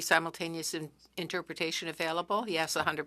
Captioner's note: speaking French